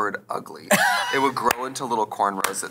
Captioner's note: Katya laughs